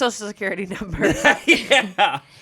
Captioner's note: laughs